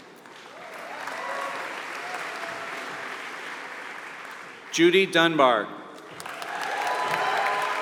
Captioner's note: applause